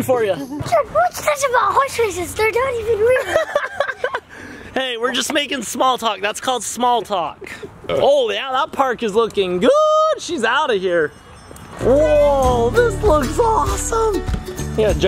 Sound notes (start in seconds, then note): 3.1 laughs